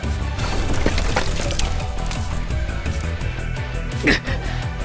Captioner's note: crumble crumble…